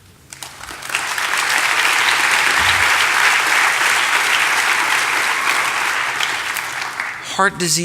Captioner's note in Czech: Potlesk